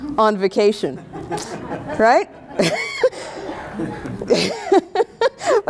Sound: audience laughing

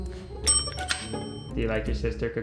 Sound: bell dinging

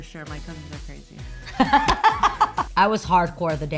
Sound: laughing

